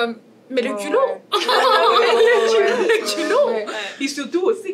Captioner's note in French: rires